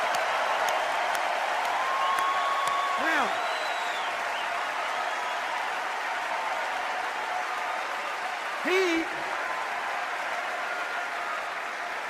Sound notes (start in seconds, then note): 0.1 sustained applause and cheers